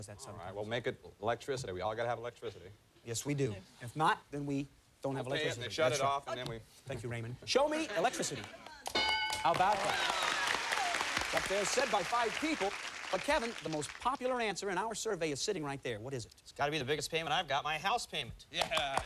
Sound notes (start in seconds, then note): 9.4 cheers and applause